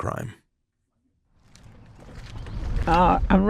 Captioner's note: quiet footsteps outside